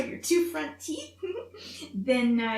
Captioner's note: giggles